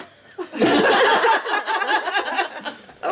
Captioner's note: laughing